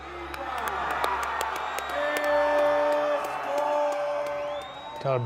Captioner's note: announcer and crowd yelling